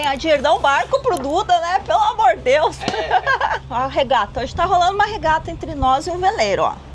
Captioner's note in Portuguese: risadas